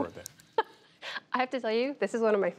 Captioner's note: laughter